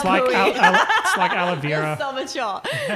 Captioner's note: laughing